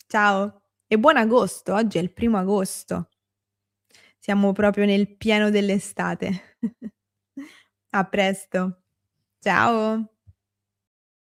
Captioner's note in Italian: risate